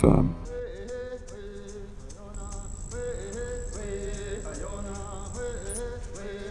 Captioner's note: tribal music; text beeping